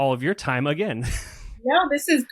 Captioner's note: laughs